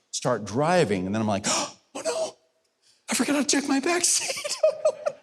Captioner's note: gasps